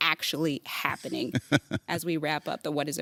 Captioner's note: laughing